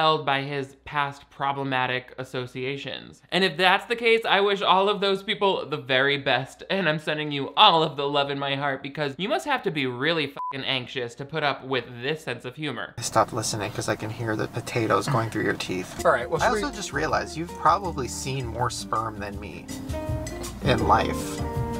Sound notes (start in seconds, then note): 10.4 beeps